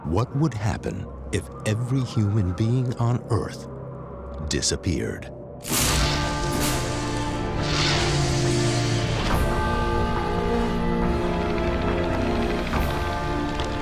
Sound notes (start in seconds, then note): 0.2 gloomy music; 5.1 buzzes; 6.8 dramatic music; 9.7 power down; 12.7 rattling